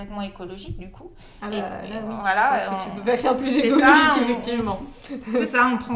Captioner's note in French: rires